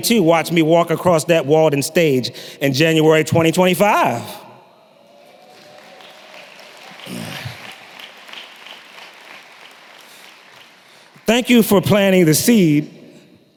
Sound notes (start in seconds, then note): 5.2 applause